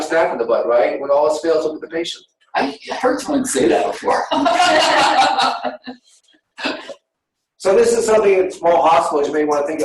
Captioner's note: laughter